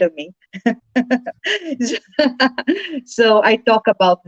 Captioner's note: chuckles